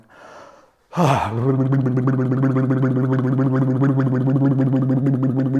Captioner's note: makes silly noise